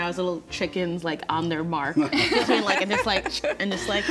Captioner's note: group laughs